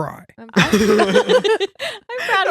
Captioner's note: laughing